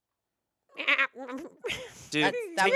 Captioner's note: grumbles